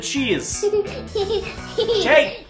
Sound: hehehe

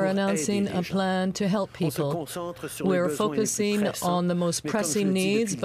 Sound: speaking French

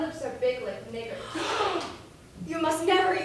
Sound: chorus GASP

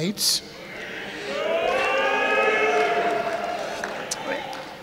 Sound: crowd cheering

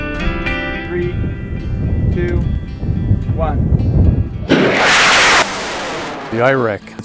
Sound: nat sound of rocket taking off

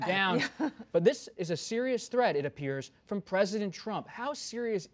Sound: laughter

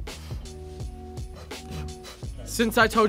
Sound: laughs

